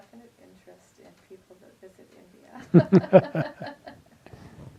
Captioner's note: laughs